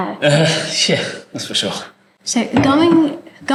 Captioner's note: laugh